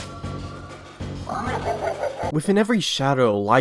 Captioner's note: jack-o'-lantern laugh SFX